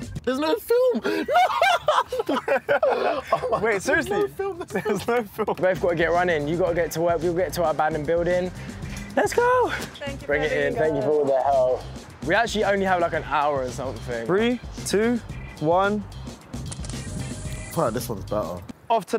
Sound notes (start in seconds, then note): 0.9 laughter